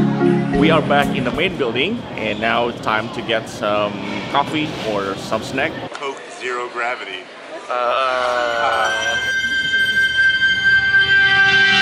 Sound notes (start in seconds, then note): 7.6 laugh; 9.8 space music